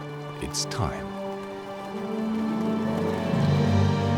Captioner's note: cranes nattering